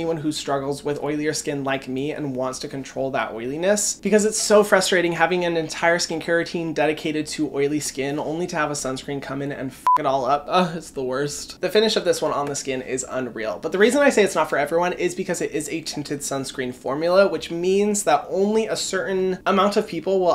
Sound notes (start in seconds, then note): 9.8 beeps